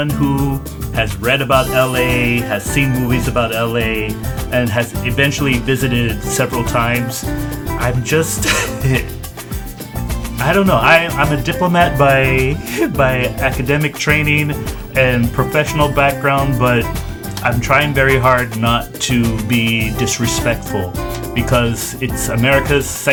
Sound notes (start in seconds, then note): 8.2 laughs